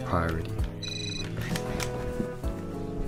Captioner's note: cell phone rings